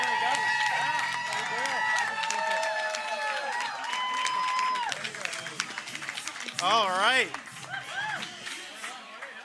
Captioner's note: cheering